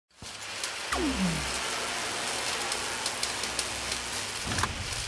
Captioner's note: sound effects playing